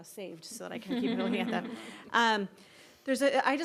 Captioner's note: laughter